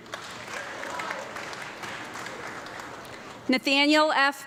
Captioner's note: audience clapping